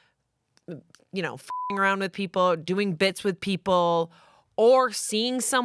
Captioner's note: beep